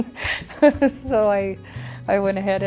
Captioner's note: laughs